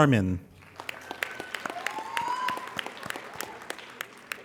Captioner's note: applauding